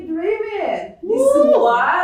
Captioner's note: cheers